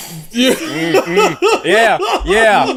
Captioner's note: laughter